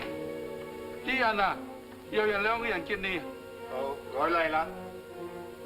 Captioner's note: speaking in foreign language